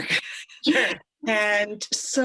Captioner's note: both laugh